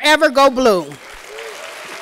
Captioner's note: applause